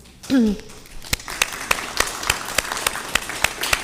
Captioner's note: all clapping